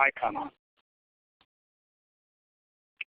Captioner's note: pause